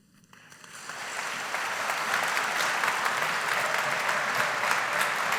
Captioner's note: graduates applaud